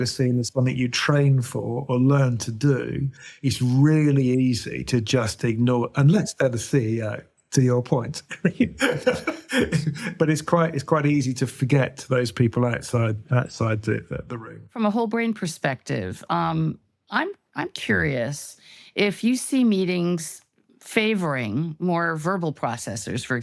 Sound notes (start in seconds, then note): 8.2 laughs